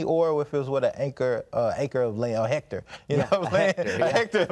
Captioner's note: laughs